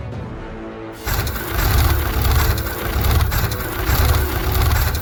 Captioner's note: machine rumbling